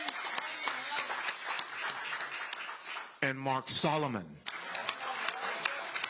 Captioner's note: applause